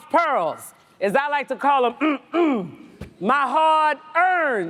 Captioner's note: clears throat